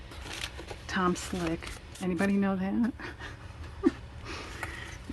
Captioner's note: laughs